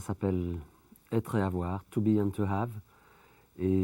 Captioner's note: speaking French